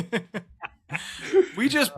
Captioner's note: laugh